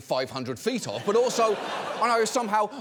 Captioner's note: audience laughing